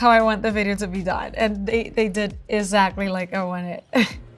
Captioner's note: chuckles